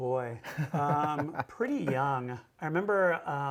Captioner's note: laughing